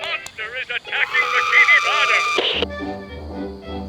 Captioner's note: screaming; soft music